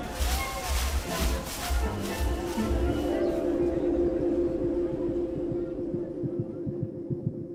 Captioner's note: overlapping chatter; ultrasound pulses